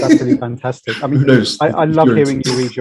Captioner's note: laughs